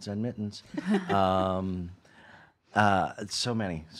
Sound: laughing

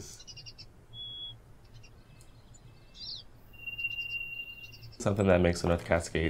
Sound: marmots whistling. Birds chirping

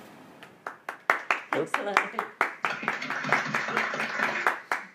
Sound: clapping

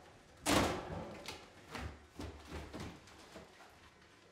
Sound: wall rattles

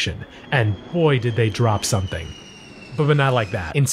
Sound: plane engine roaring

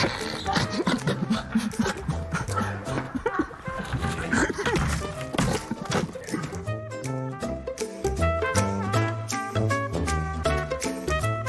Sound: laughter

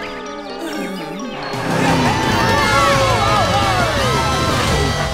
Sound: cheering

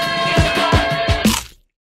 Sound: chicken crunching

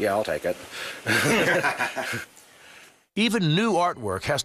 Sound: laughs

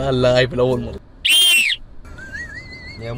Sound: whistles; laughs

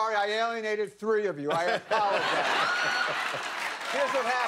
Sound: laughter

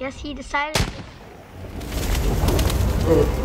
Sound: gunshot goes off

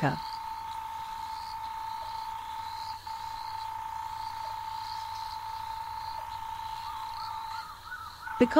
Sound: night sounds

